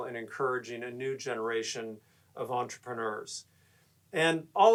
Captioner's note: none